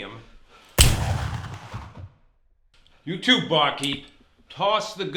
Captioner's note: pistol fires